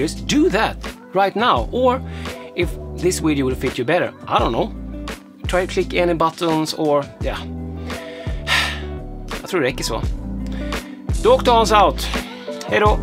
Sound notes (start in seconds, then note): 8.7 speaking swedish